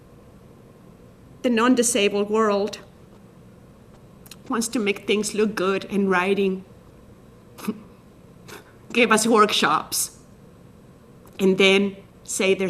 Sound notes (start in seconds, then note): 7.5 scoffs